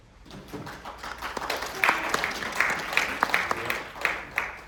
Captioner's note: audience applauding